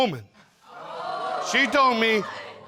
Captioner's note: audience exclaims